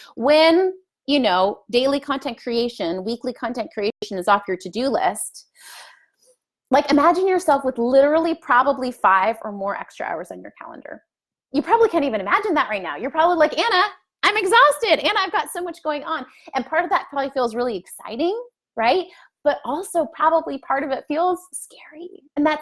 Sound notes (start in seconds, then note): none